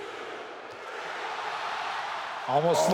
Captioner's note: audience cheers